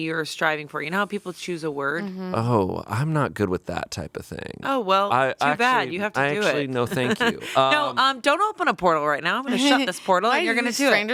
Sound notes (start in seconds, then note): 6.3 laughing